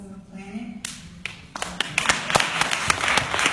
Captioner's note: clapping